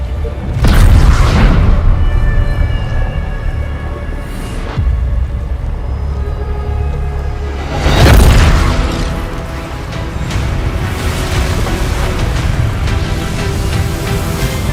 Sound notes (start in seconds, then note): 0.5 explosion booming; 7.8 explosion booming; 11.1 ground rumbling; 11.1 water crashing; 13.2 electricity buzzing